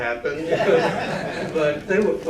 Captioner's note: laughter